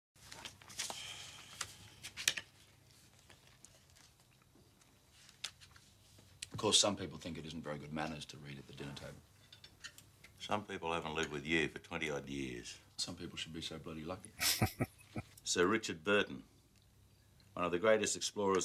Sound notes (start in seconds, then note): 14.3 chuckling